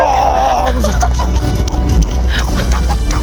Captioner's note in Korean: 웃음